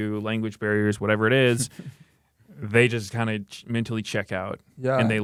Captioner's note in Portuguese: risos